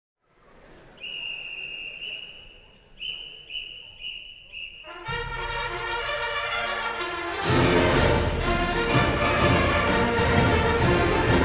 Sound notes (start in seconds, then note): 0.9 whistling; 5.0 band playing